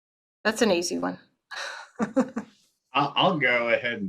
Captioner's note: laughs